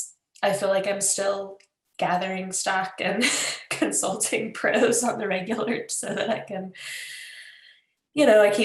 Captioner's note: laughs